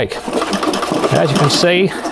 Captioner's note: all pieces rattling